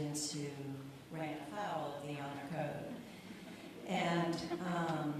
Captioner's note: light laughter